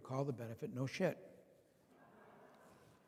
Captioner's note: laughter